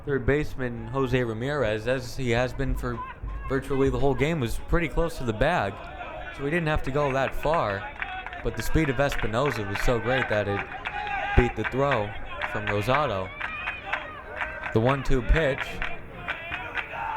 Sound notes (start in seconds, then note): 14.1 crowd cheering